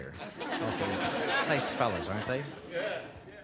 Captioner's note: laughter